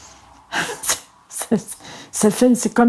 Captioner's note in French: rire